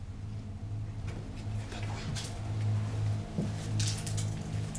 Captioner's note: speaks French